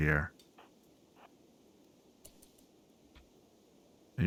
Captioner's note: silence